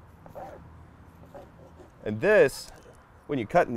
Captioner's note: knife slicing